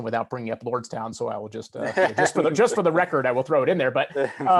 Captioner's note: laughs